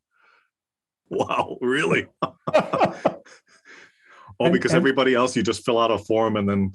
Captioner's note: laugh